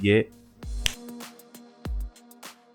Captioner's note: snap